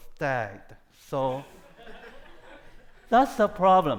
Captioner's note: audience laughing